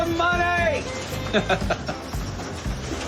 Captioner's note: chuckles